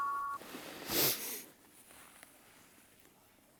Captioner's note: ringtone stops